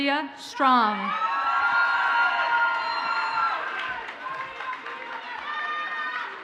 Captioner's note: audience cheers and applauds